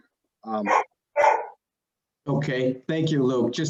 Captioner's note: dog barking